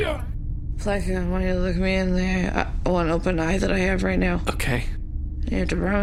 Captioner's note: slurring worse